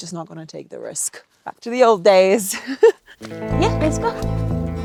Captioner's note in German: Fröhliche Musik; lacht